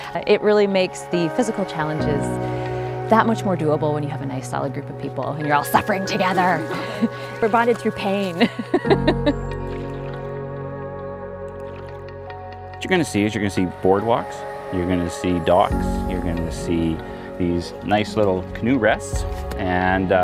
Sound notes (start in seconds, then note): 8.2 laughs